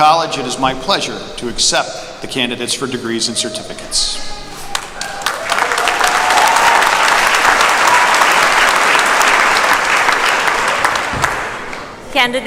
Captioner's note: applause